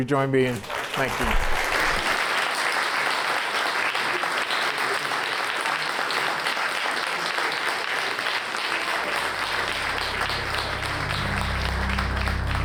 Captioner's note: applause